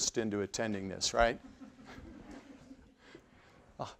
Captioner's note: laughter